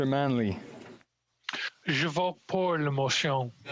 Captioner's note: speaking French